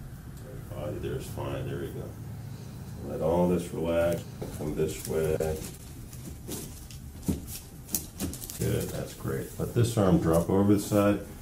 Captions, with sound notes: Body there's fine. There we go. Let all this relax and come this way. (crack) Good. That's great. Let the arm drop over this side.